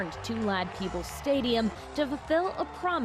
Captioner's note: cheers